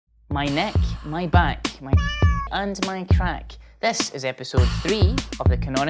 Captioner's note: meow